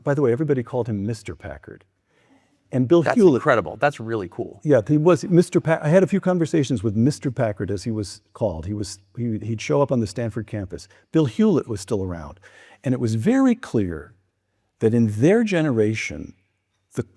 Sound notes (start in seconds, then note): none